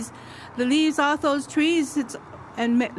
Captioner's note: speaks Idigenous language